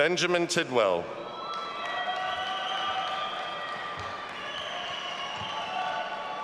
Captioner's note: audience applauding and cheering